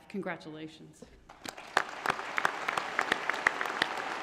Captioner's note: applause